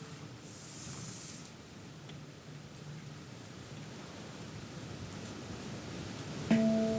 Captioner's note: bell tolls